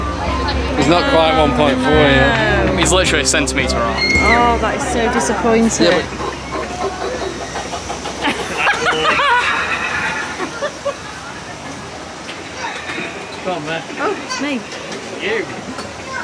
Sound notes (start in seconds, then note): 11.0 laughter